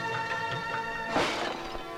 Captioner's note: Pot smashed